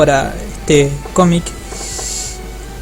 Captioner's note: inhales